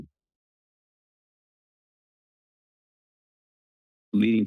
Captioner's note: pause